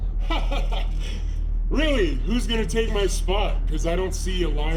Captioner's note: laughs